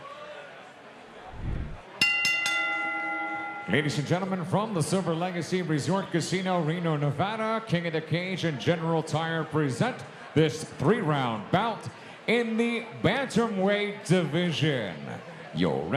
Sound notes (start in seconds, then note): 2.0 bell rings